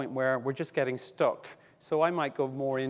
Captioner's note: none